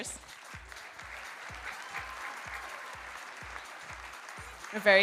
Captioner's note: audience applauding